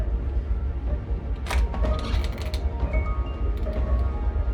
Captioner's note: lock clicks; doorknob turning; intense orchestral music